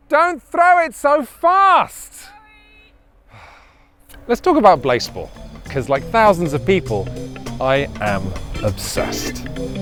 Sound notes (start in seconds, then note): 3.3 sighs; 9.6 gentle upbeat music